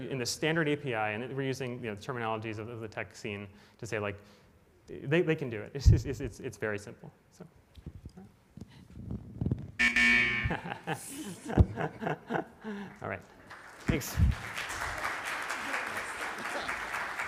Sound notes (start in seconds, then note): 9.8 buzzer rings; 10.4 laughs; 13.4 audience applauds